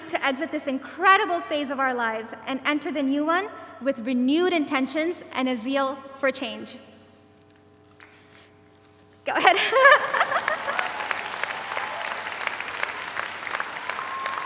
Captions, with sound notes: to exit this incredible phase of our lives and enter the new one with renewed intentions and a zeal for change. Go ahead (laughs). (audience applauds)